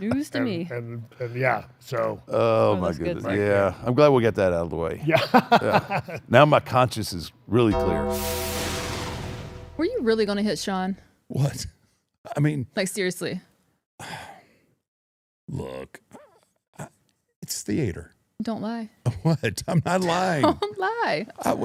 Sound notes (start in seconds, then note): 5.6 laughs; 7.7 ominous music